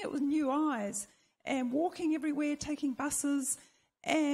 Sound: none

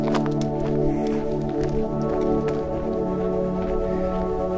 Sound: panting

